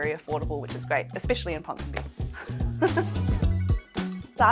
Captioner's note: laughs; upbeat music